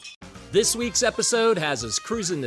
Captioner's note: breaking glass